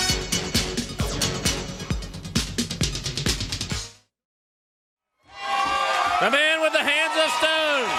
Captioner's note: crowd cheering